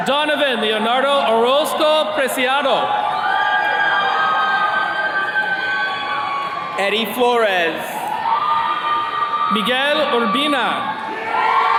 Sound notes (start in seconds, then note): 3.5 attendees cheering; 8.5 attendees cheering